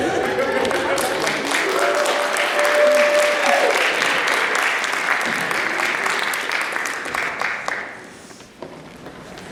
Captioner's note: applause